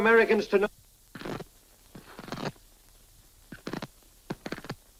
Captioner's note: static buzzing